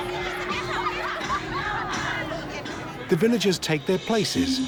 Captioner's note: girls laughing